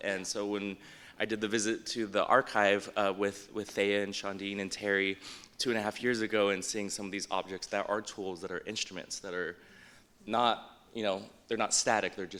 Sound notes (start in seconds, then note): none